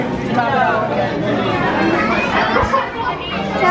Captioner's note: overlapping crowd conversation